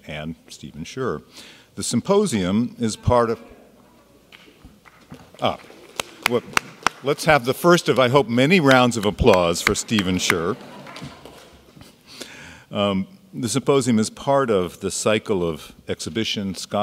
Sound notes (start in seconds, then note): 5.3 claps; 9.8 audience laughs